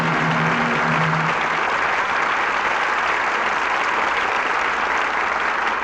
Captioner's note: audience applauding